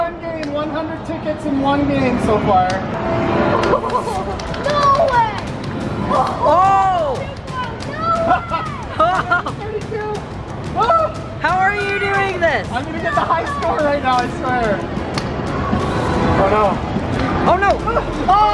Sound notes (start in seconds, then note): 8.2 laughing